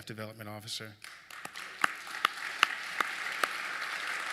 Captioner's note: applause